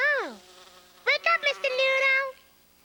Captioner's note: fly buzzing